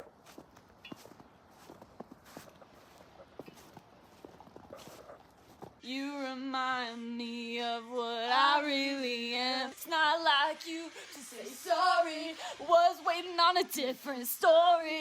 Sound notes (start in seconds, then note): 0.0 sounds of walking on soft snow